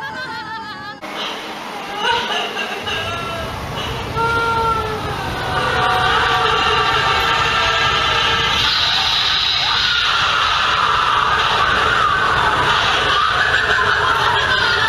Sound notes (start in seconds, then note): 2.0 crying